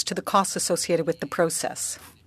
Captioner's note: speaking French